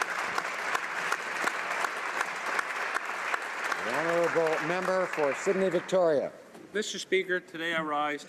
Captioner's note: applause